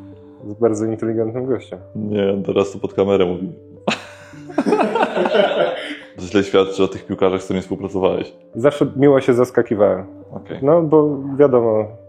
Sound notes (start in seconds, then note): 3.9 laughter